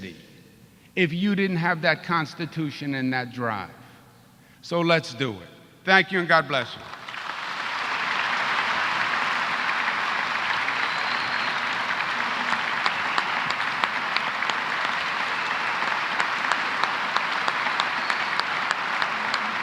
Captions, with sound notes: CITY IF YOU DID NOT HAVE THAT CONSTITUTION AND DRIVE. THANK YOU AND GOD BLESS YOU. [APPLAUSE]